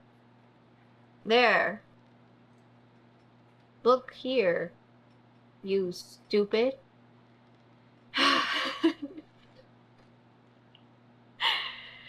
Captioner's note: laughs